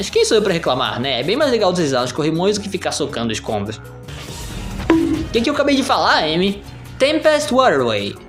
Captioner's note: Amy *thunk